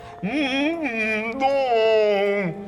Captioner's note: moans